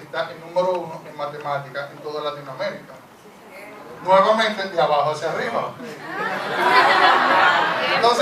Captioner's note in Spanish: El público murmura